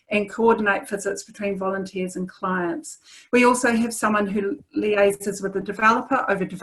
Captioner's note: none